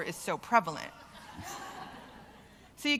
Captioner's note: laughter